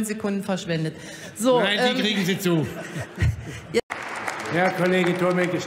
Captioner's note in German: Heiterkeit bei Abgeordneten der CDU/CSU und der FDP